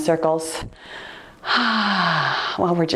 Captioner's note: sighing